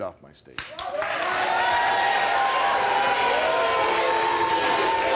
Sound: audience cheers

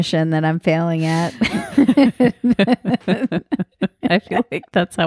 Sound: both laughing

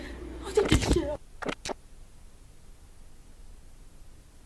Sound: camera clicks

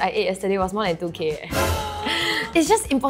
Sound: gasps

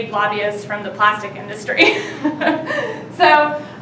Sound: laughing

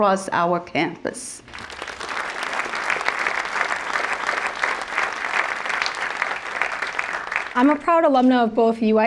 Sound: applause

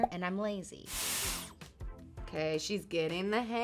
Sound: hair tool whooshes

